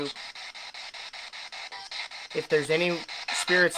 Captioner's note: scanning